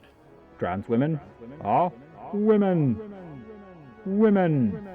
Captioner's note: trans-mitter broadcast